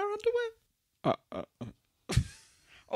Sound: stammers and chuckles

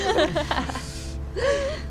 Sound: all laughing

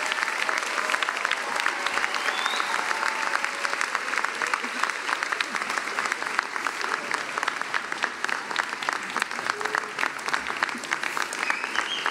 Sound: cheering and applause

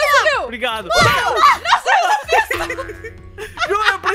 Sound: screams; screams and laughter

